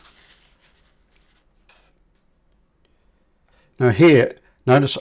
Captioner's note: silence